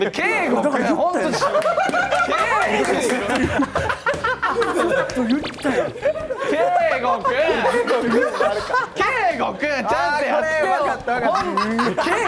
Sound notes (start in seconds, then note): 1.7 hahahahahahahahahahahahahahahaha